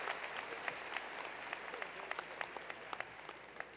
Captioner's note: cheers and applause